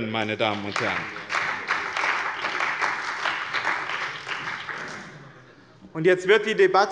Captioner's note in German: Beifall bei dem BÜNDNIS 90/DIE GRÜNEN und der CDU